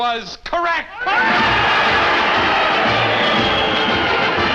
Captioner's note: clapping